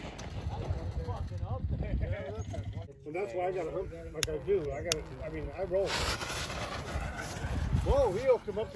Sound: chatter

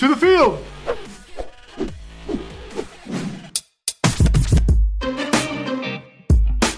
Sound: swishing

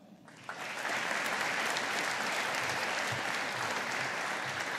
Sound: audience applauding

